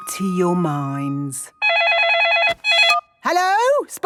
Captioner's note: phone ringing